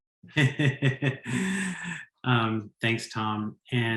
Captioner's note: laughs